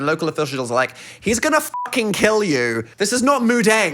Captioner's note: beep